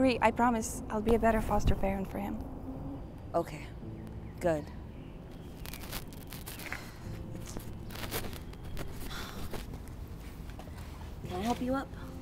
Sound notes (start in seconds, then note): 6.7 deep sighing